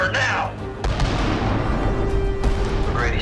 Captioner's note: explosion booming